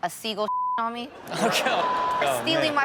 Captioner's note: audience laughs